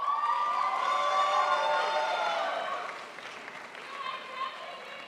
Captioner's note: crowd applauds